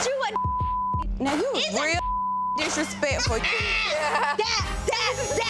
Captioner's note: beep